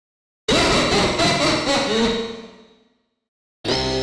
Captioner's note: EVIL Laughter